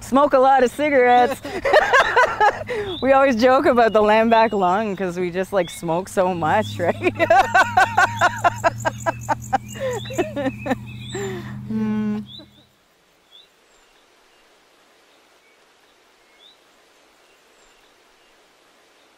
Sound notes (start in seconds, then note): 1.0 they laugh; 7.0 sounds of nature. Children playing; 7.0 voices are heard through speaker over actor movement